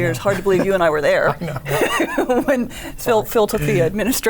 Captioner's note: chuckles